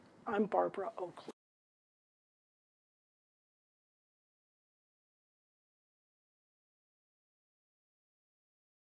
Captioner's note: صوت_فارغ